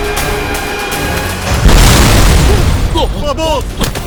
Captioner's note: explosion